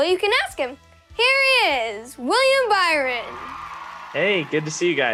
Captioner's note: audience cheering